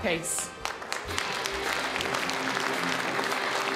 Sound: applause

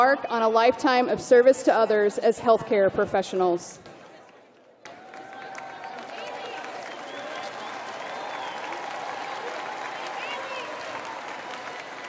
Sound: cheering

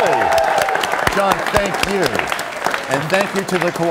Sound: cheers and applause

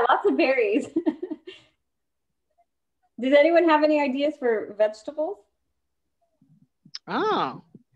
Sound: laughter

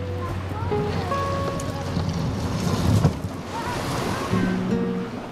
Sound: gentle music; waves lapping

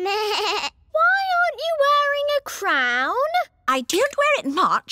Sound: bleats

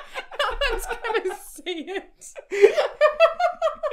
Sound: laughter

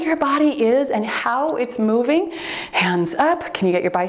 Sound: timer beeps

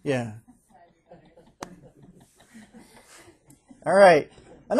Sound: students chuckling

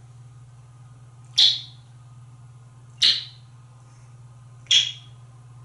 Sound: yet more smooches

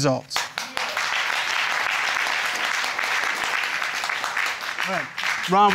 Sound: audience applauding

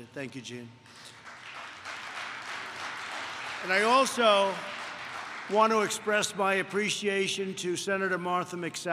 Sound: applause

